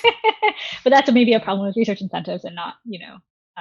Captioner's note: laughing